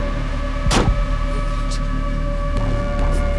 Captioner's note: Wendy muttering in fear